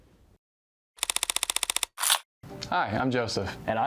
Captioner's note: shutter sound